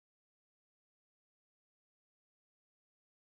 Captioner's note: none